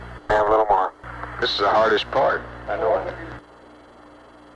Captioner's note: mission Control Audio